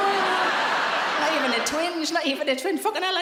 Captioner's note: audience laughs